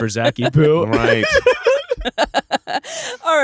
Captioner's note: laughing